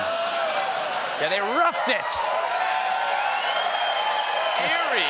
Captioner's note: cheers and applause